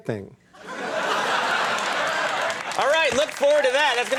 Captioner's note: audience cheering